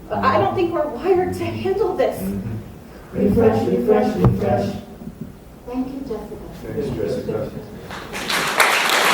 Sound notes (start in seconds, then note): 6.2 all murmuring